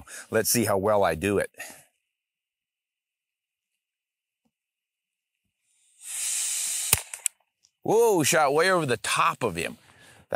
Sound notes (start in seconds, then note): 5.9 hissing; 6.9 shot fires